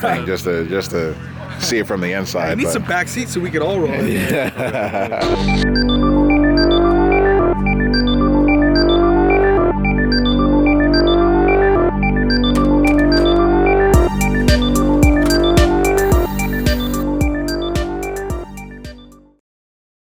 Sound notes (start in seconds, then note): 3.8 laughing; 5.7 techno music